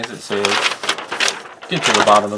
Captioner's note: paper rustling